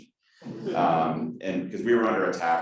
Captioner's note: audience laughing